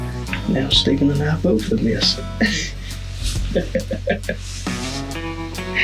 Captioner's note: laughs